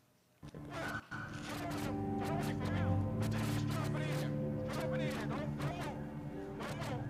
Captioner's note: static whirring